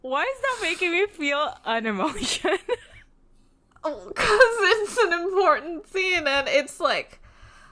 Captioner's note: laughs